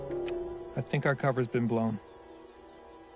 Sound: door opening

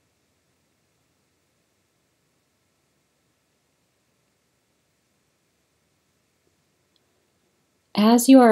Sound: silence

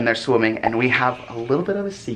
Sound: shushes

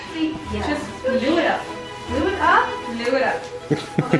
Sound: beaded trim rustling

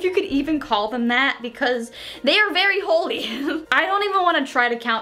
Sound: laughs

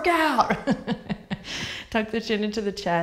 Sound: laughs

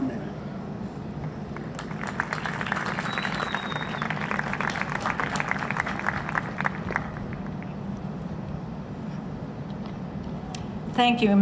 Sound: applause

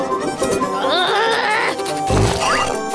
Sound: growling

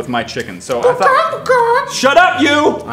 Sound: chicken noises

